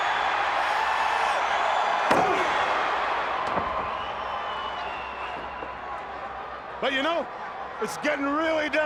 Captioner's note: crowd cheering